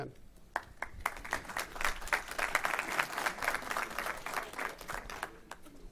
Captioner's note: applause